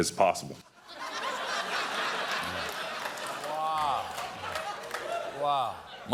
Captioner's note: laughter